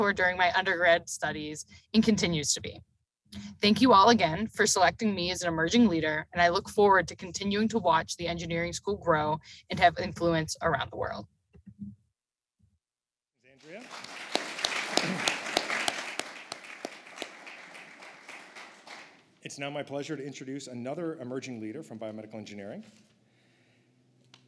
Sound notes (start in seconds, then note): 13.5 applause